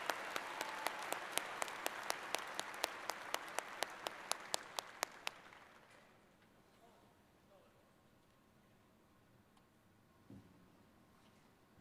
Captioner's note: applause